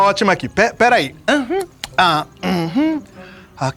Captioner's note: Chico moans